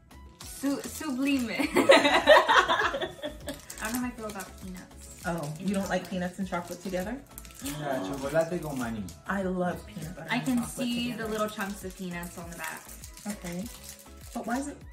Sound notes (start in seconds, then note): 1.6 laughing